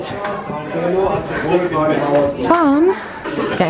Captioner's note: people chatter